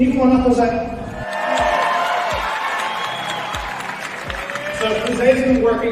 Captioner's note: cheering